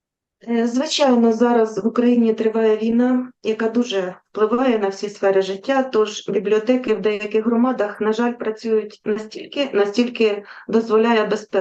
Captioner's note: foreign Language